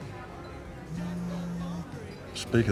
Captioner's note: phone buzzing